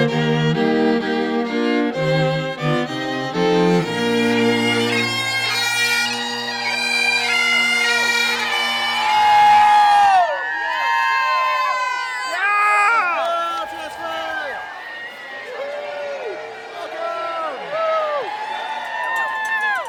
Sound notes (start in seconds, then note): 10.7 crowd cheering